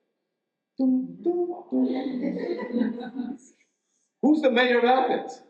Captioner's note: audience chuckles